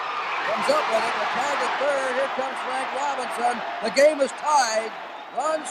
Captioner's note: people cheering